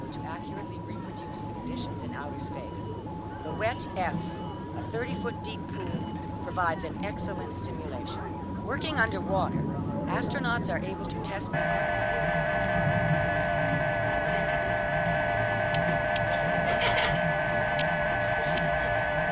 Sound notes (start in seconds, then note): 11.5 spacecraft whirs; 16.3 boys laugh